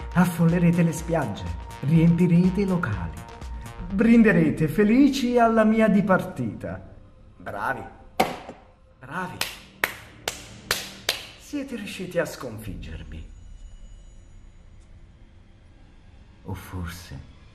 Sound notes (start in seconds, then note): 10.6 applause